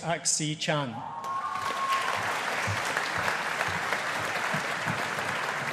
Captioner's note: audience applauding